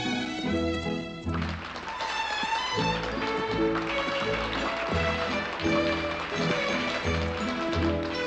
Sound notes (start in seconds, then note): 0.6 audience Applauding